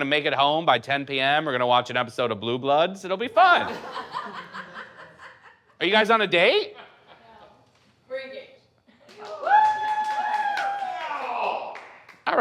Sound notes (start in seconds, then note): 3.6 audience laughs; 9.0 audience applauding